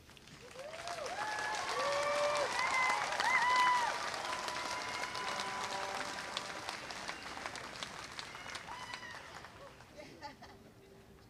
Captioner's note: applause